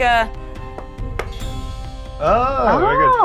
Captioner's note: table clanks